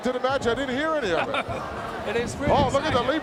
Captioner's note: chuckling